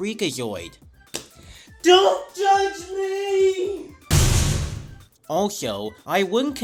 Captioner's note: slams door